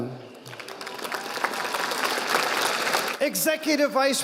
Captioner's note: audience applauding